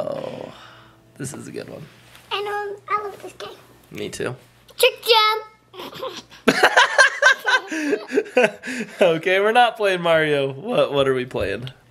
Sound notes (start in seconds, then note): 5.8 laughs